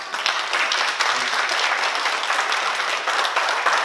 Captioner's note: oklaski